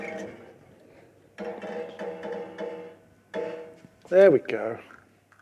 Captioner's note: spring creaking